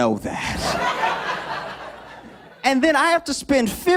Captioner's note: laughter